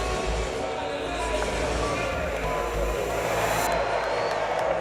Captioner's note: suspenseful music; crowd noise